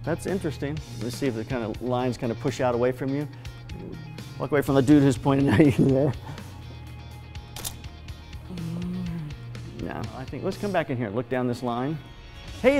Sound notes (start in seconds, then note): 7.5 click of camera